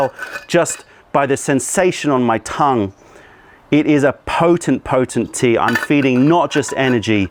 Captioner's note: pouring tea